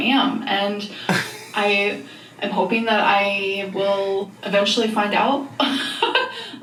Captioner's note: laughs